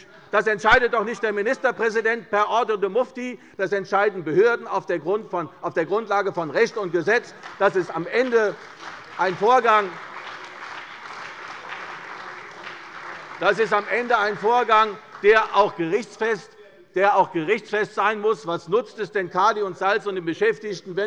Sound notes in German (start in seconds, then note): 6.6 Beifall bei der CDU und dem BÜNDNIS 90/DIE GRÜNEN